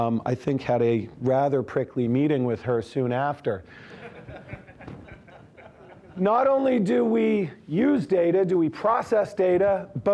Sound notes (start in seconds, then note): 3.9 audience laughing